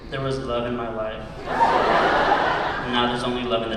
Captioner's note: laughter